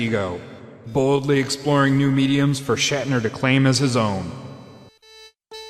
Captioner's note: echoing voice